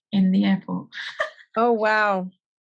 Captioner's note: laughs